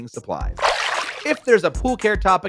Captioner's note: water splashing